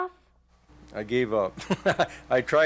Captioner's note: laughs